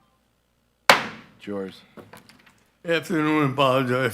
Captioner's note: gavel banging